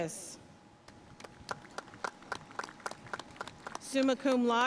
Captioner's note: audience cheering and applauding